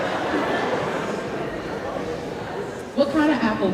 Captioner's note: indistinct chatter